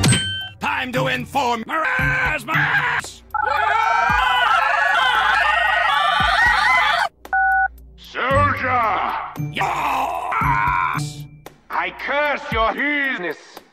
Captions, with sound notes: Time to inform Meraaaaaaaaaaaaaaaaaaasmaaaaaaaaaaaaaaaaaaaaas *Phone typing intensifies* *Beep* Soldier! Yea- oooooooooooooooooo AAAAAAAAAAS I curse your penis